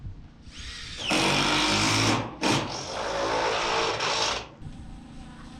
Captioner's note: drill running